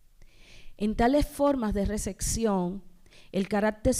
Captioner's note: speaking spanish